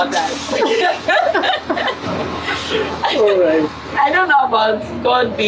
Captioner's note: laughs